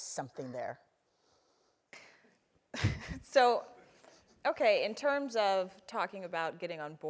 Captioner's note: laugh